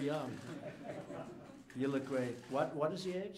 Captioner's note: laughter